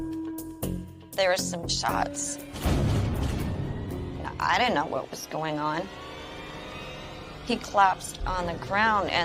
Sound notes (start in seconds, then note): 2.6 gun firing; 6.1 rising suspenseful music